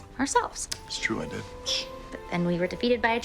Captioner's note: Arthur hushes